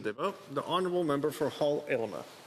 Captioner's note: speaking Indigenous Language